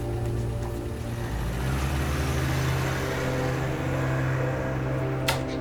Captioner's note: car engine rumbling